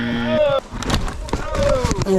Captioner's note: bell buzzing; shouting; bicycle crashing; shouting